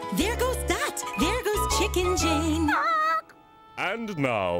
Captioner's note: squawks